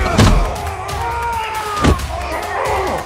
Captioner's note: all straining; all grunting